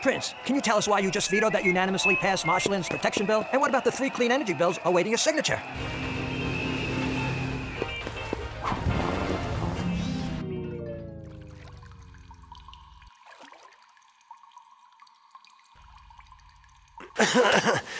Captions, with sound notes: Prince, can you tell us why you just vetoed that unanimously-passed Marshlands Protection Bill? And what about the three Clean Energy Bills awaiting your signature? (boat engine revving) (water trickling) (water trickling) (Prince coughs)